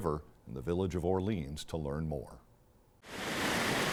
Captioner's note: water rushing